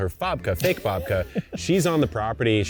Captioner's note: chuckling